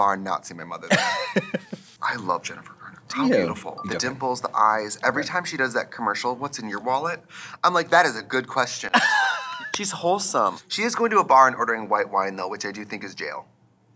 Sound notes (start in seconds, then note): 1.0 Katya laughs; 9.1 Katya laughs